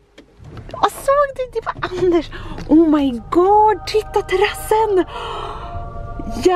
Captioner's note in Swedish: ljudeffekt av änglakör